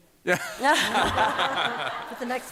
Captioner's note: laughter